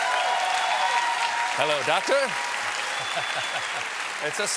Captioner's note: cheers and applause